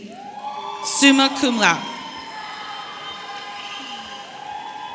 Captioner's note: audience cheering